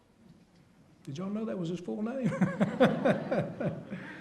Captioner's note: laughs